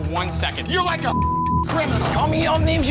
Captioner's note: beep